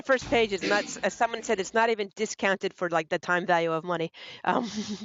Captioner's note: laughter